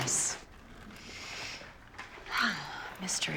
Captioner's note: sighs